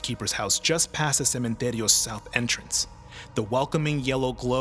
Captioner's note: speaks Spanish